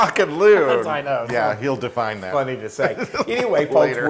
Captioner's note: laugh